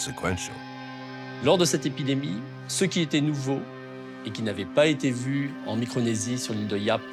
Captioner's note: speaks in foreign language